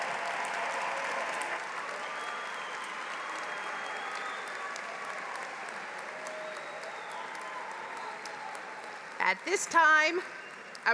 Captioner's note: applause